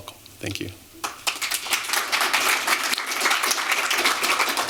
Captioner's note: applause